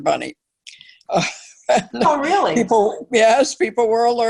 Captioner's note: laugh